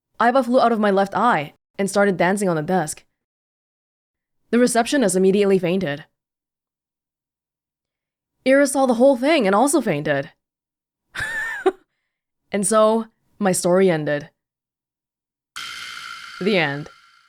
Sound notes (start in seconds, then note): 11.2 chuckles